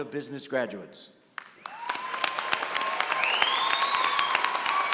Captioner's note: cheering and applause